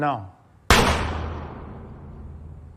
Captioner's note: gunshot